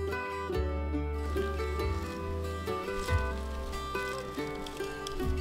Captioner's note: cat purring